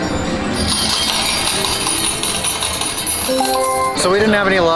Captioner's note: machine makes coin falling sounds